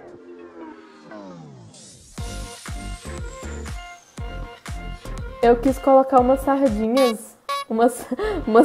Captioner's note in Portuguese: buzina de palhaço; risos